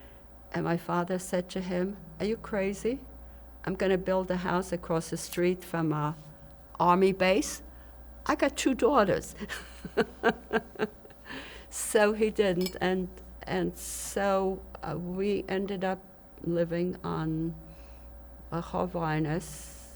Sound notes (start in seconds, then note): 9.4 laughing; 18.2 hebrew